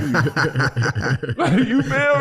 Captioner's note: laughing